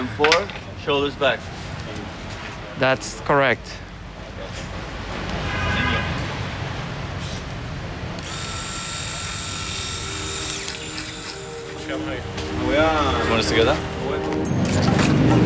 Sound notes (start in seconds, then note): 8.2 clippers screeching